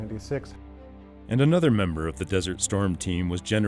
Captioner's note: voiceover